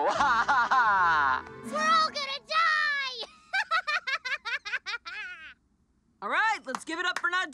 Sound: laughs

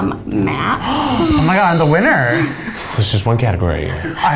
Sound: gasps

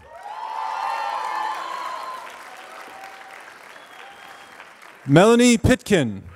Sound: applause

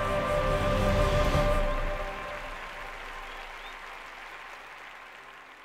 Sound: inspiring music; clapping and cheering

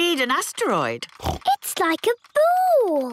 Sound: snorts

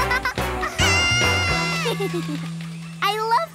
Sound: shrieking; screaming

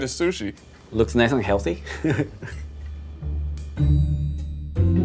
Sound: laughs; playful music

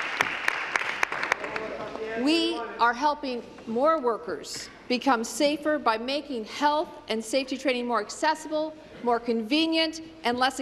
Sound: applause

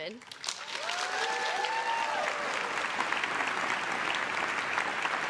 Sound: crowd claps and cheers

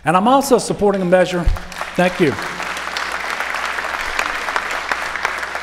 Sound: applause

